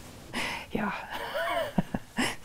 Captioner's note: laughing